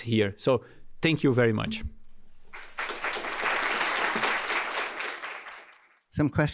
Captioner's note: applause